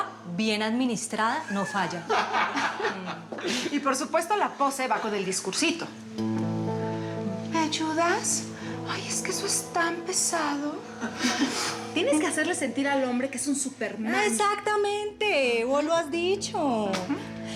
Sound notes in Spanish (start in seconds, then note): 2.0 carcajadas de ellos; 7.5 con voz lánguida; 11.0 ellos ríen